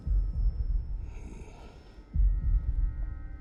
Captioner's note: grunt